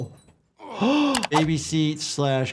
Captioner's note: Dr. Jordan sighs